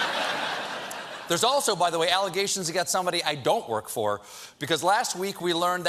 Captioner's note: laughter